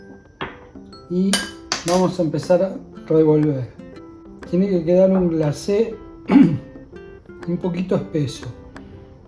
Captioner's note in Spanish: carraspeo